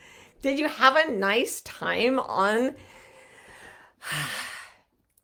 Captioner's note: sighs